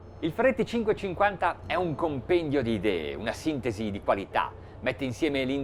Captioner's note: speaking in foreign language